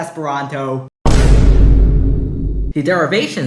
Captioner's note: vine boom intensifies